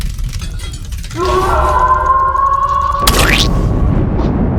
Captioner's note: Dr. Barney screams